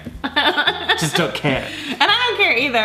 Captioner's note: laughing